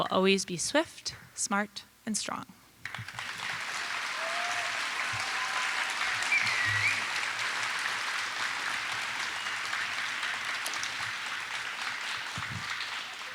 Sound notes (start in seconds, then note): 2.8 applause